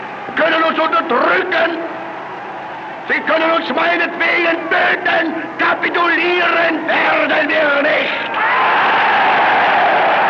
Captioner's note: German speech; cheers